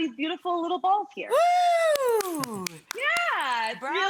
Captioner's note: cheering